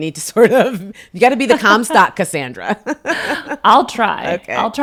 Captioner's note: laughs